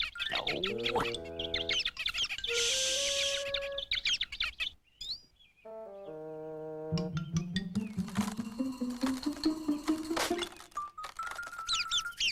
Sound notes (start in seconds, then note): 3.8 chirping; 7.8 cracking